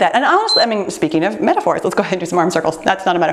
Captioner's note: timer beeps